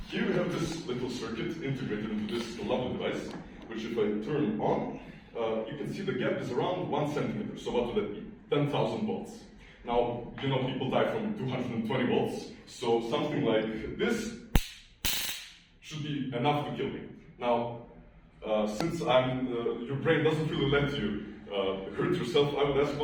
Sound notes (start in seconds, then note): 14.5 taser zapping